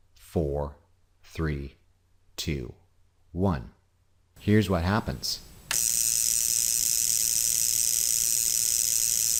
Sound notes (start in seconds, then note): 5.6 electricity buzzes